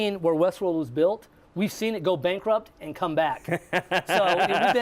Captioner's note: laughs